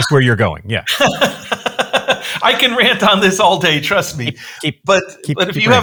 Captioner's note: laughing